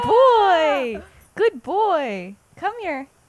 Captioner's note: awh